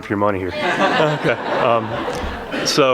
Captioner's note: laughter